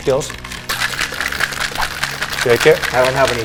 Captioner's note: cocktail shaker shaking